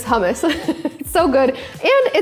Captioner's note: laughing